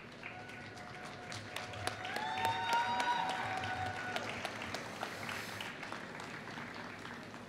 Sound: applause

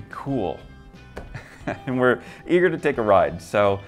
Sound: laughs

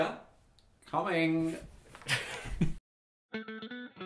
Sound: laughs

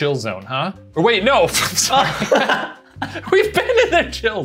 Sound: all laughing

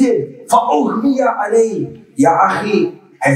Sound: Arabic

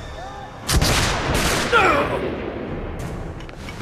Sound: gunshots

